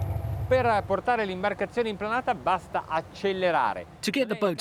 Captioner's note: speaks in foreign language